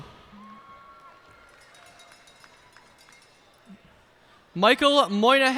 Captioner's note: cheers and applause